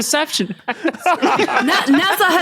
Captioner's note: group laughing